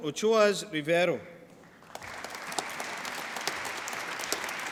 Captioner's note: applause